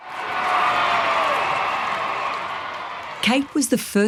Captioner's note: cheering